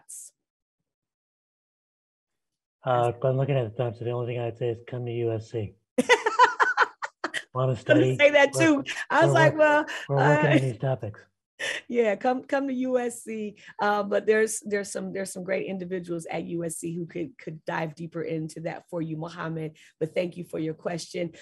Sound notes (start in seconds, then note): 10.0 laughing